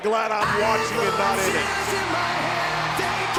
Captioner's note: crowd cheering